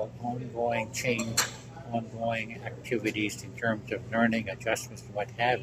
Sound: background sounds of cups and dishes clanking

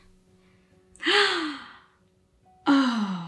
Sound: ticket Agent gasps

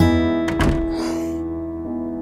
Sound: door closes; Poonam exhales

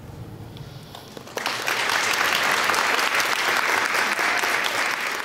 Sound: applause

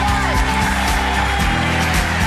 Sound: audience cheering and applauding; upbeat music

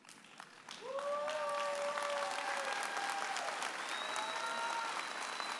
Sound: audience applauding and cheering

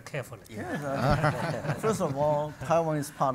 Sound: audience, panel laugh

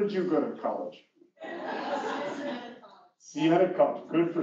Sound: laugh

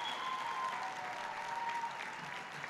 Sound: applause

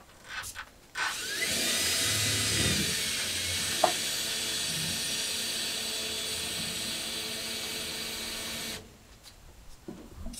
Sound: drilling

